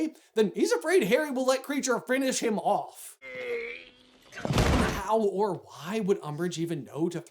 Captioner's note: none